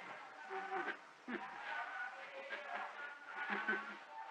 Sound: laughter

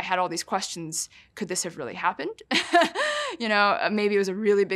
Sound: laughs

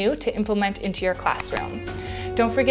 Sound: cursor clicks; bell rings

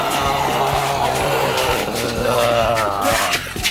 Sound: zombie moans

